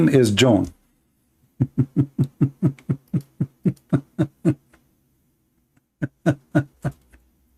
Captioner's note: Ketawa